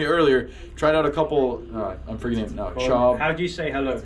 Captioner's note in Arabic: كلام بلغة أجنبية